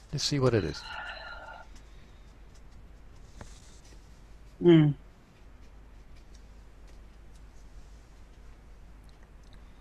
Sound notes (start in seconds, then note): 1.7 fingers tapping softly